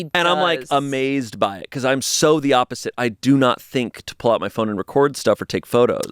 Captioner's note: none